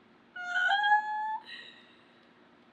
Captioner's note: screeches